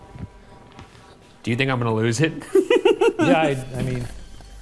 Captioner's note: chuckles